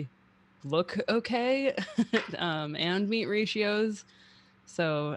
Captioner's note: chuckles